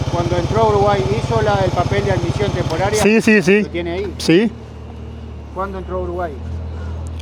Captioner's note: speaking Spanish